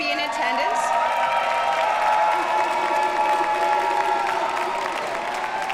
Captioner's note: audience cheers and applauds